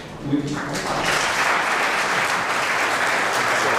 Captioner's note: applause